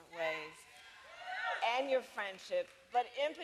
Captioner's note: applause